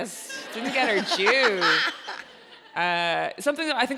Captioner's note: audience laughs